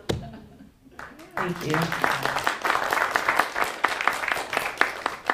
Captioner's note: applause